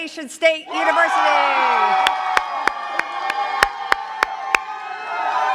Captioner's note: cheers and claps